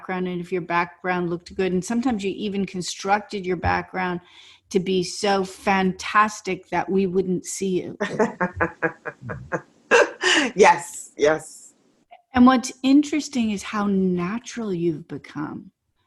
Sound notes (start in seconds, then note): 8.0 laughing